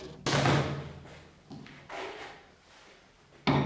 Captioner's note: top thuds